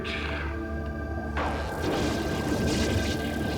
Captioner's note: buzzing